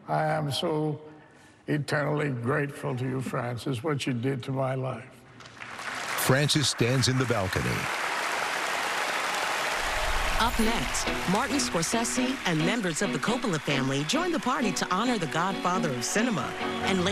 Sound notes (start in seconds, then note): 5.5 cheering and applause